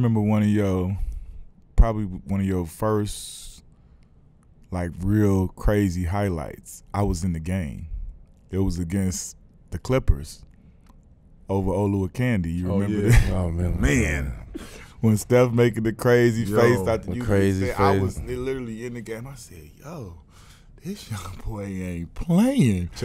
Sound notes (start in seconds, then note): 12.8 laughing